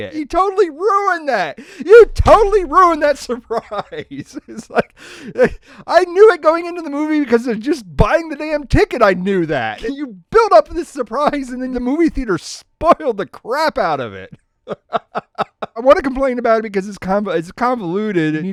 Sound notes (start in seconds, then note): 14.2 laughter